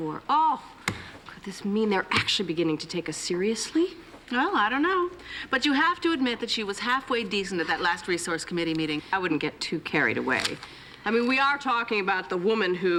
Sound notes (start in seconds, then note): none